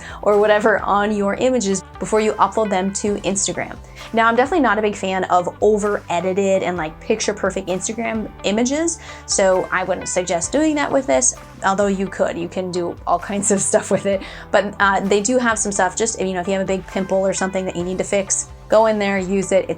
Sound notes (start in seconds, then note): 13.6 chuckles